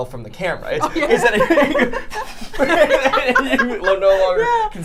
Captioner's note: people laughing